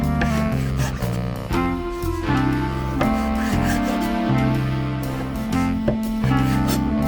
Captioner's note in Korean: 훌쩍